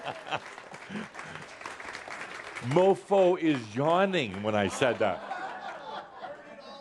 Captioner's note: Adamus laughs as audience continues clapping; more laughter